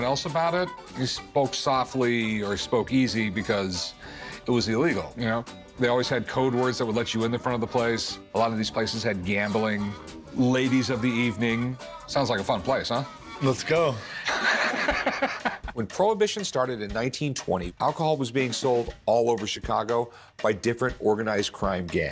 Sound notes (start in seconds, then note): 13.9 Rick laughs